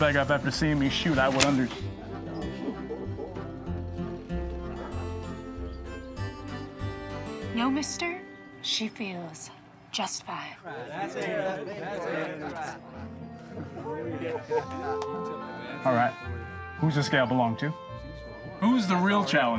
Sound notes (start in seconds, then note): 2.0 gun cocks; 10.3 crowd chattering